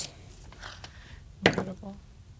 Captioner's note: dice rolling